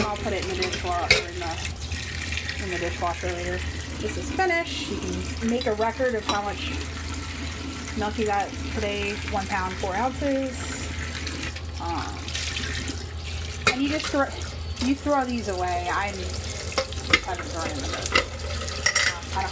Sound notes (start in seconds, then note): 11.4 water splashing